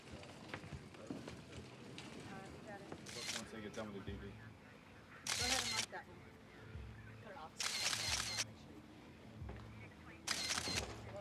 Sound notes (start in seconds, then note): 3.0 camera shutter clicking